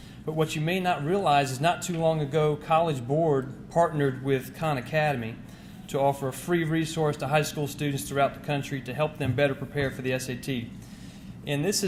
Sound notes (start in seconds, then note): none